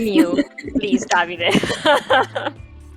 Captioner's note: laughter